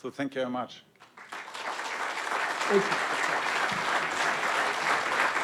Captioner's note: audience applauds